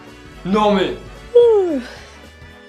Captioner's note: yawn